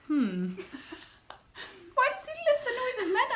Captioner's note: laughs